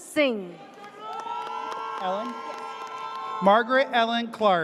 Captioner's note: audience cheers